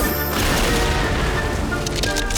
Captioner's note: thunder crashes; ice cracking